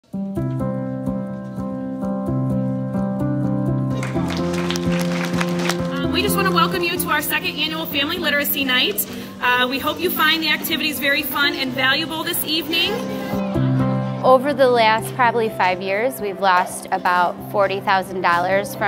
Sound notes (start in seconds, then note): 0.3 peaceful music; 3.9 people clapping